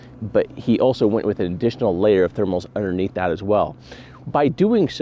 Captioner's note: none